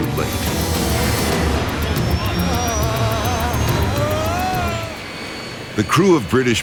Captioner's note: sad music; plane engine roars